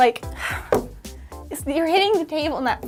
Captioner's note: sighing heavily